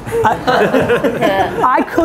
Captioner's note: guys laugh